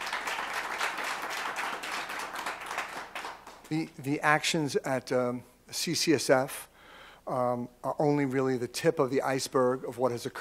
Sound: applause

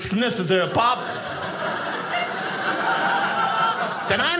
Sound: audience laughing

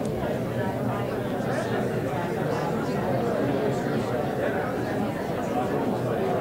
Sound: audience talking

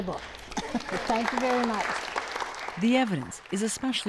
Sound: applause

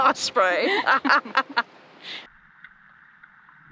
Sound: laughter

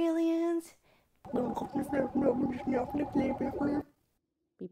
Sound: alien language noises

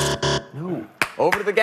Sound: buzzer

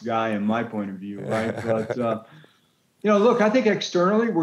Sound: laughing

